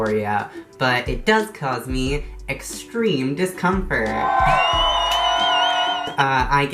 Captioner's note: crowd cheering